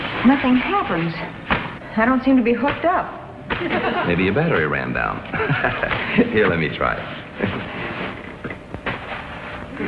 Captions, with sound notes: Nothing happens. I don't seem to be hooked up. (audience chuckles) - Maybe your battery ran down. (laughs) Here, let me try it.